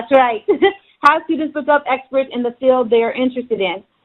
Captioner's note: chuckles